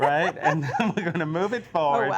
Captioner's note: laughs